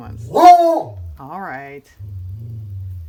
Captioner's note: dog barks